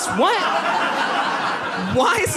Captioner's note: audience laughs